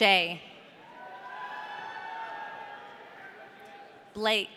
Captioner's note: audience cheering